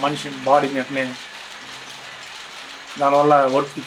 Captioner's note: the constant hum and clatter of the electric loom